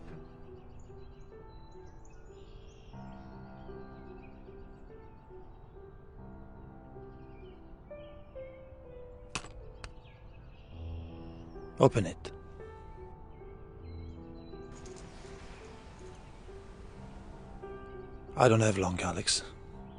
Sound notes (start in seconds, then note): 3.0 birds twittering